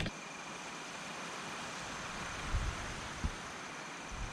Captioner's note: wind whooshes